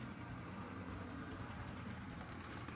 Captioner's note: more humming and clacking